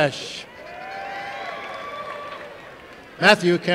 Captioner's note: applause and cheering